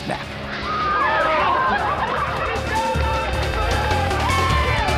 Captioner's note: people shouting